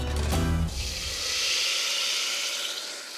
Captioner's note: sizzling